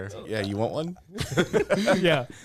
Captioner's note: laughs